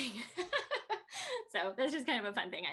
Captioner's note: Tui laughing